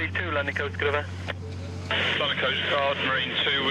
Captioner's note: radio hissing; radio clicks